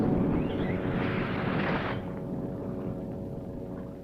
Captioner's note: fuse sizzling